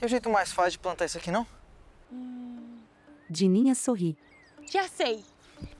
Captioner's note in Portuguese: Pássaros